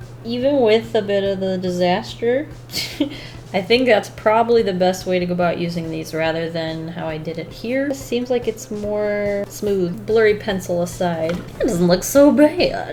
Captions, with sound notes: Even with a bit of the disaster, [Laughs] I think that's probably the best way to go about using these rather than how I did it here. It seems like it's more smooth. Blurry pencil aside, it doesn't look so bad.